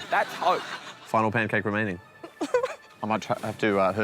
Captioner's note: whimpers